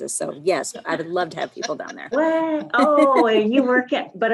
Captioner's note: laughs